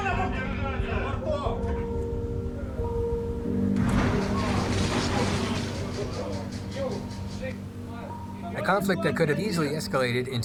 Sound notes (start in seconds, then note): 2.7 boats colliding